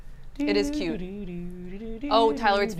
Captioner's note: hums